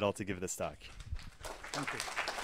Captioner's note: applause